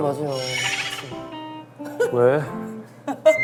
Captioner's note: hahahaha